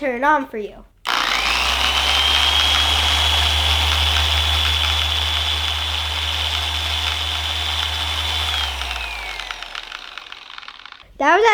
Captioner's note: machine sound